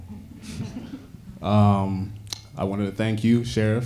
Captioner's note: audience laughs